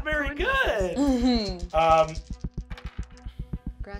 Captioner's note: dice clacking